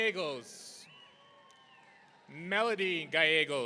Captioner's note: audience cheering